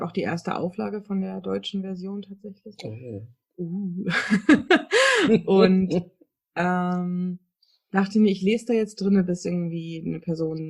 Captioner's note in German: lacht